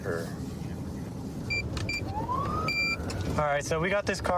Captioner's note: buttons beeping